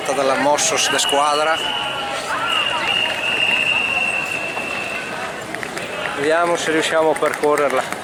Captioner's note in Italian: Applauso